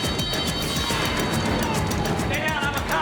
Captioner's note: sirens wailing